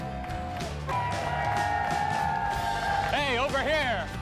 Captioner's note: cheers